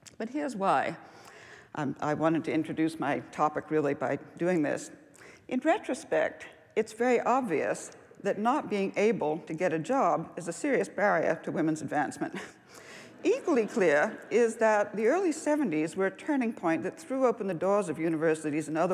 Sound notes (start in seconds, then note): 12.1 laughs